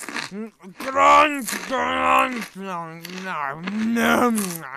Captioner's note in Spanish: Sonidos inentendibles de deleite